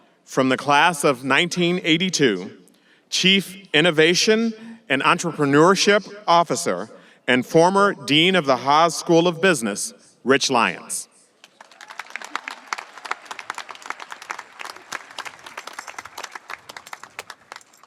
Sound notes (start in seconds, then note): 11.4 audience applauding and cheering